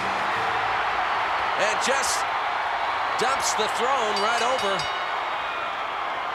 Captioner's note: applause